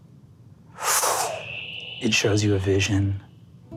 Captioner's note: mimics air whooshing